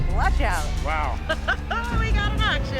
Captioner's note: laughs